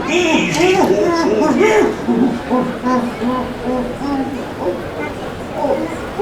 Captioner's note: patient groaning